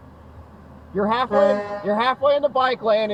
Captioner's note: honk